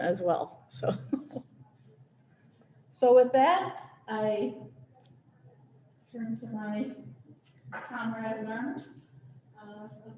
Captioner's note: laughter